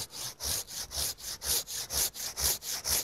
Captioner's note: sawing